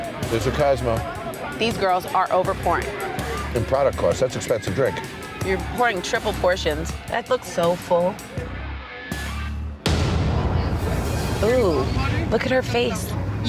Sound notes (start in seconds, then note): 0.9 crowd roaring; 9.8 impact slamming